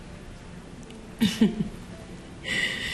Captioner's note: chuckles